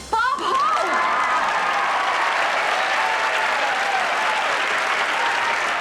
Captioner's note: audience cheering and applause